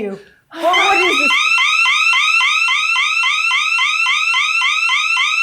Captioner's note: siren blaring